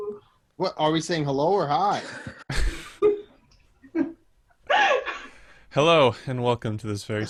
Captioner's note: laughter